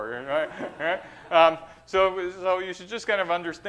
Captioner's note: laughter